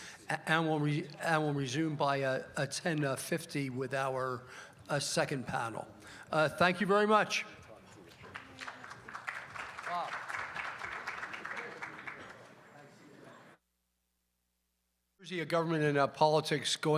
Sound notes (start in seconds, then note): 11.9 applause